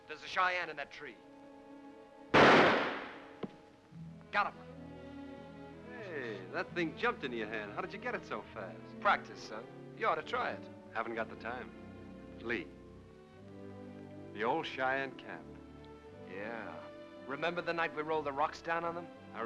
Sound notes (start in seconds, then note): 2.3 gunshot